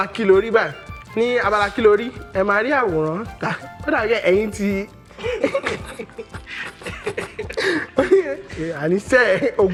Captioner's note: laughs